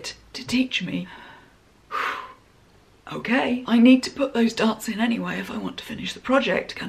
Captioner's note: sigh